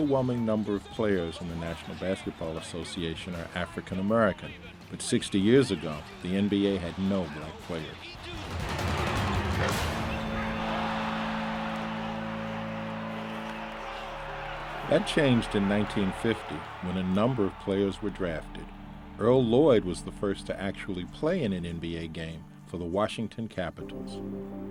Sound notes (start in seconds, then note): 10.1 drum roll music; 13.5 audience cheers